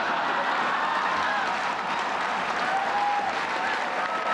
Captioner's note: audience laughing